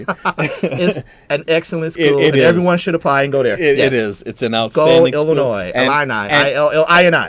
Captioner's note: laughing